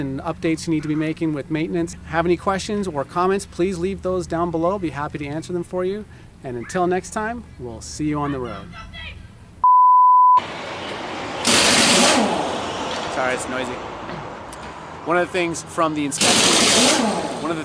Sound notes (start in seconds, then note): 9.6 beep; 10.5 machine whirring; 16.2 machine whirring